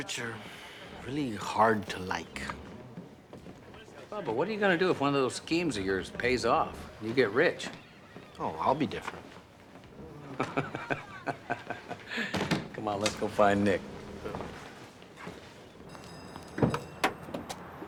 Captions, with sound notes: You know, sometimes the rich are really hard to like. Bubba, what are you gonna do if one of those schemes of yours pays off, and you get rich? Oh, I'll be different. (laughing) Come on, let's go find Nick.